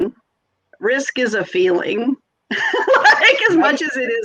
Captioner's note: laughs